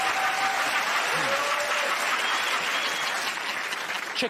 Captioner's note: cheers and applause